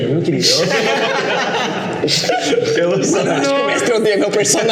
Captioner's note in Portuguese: risadas